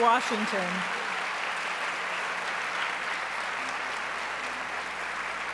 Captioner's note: audience applauds